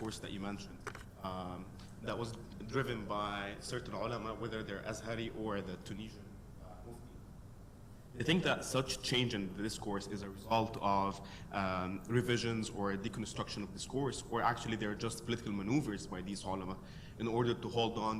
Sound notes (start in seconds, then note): 5.1 foreign words